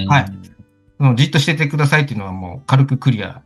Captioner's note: laughs